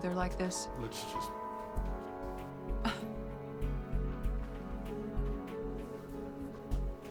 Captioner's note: scoffs